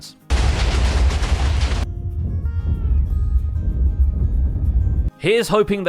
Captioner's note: distant explosions